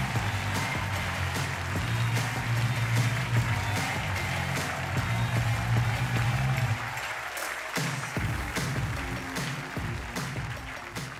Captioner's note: cheers and applause